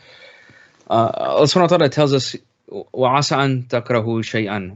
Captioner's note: speaking in Arabic